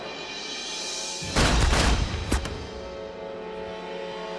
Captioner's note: gunshots fire